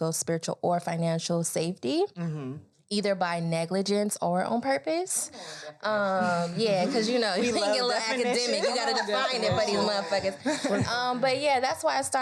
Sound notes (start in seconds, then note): 6.2 all laugh; 9.5 laughs